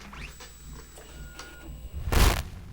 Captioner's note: static